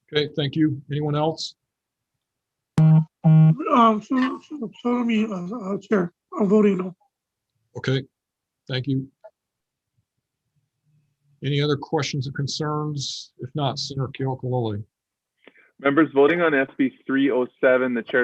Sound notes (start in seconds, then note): 4.0 faintly speaking